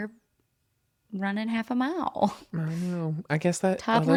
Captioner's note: laughs